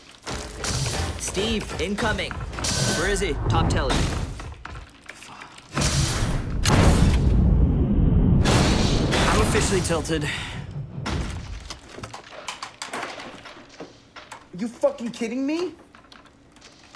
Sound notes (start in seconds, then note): 5.8 guns firing; 11.2 mouse dropping